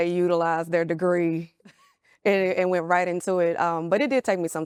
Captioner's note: laughs